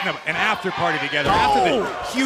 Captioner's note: fans chanting